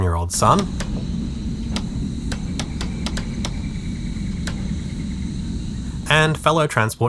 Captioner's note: click click click click click click... click